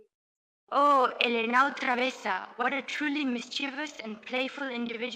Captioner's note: in spanish